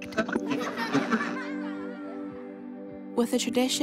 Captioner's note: static buzzes, children laugh